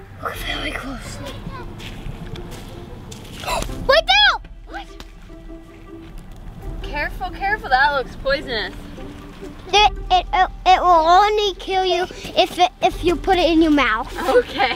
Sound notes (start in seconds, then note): 3.6 gasping